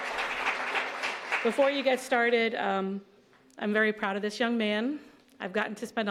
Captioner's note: applause